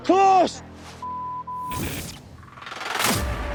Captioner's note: beep